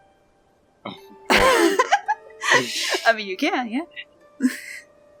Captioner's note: laughs